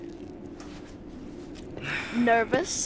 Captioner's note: sighs